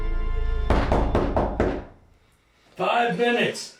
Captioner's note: door knocks